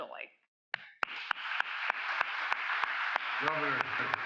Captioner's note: applause